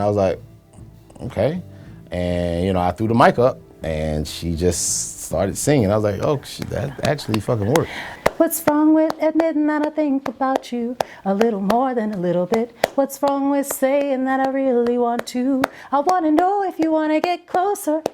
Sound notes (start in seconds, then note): 8.1 hands clapping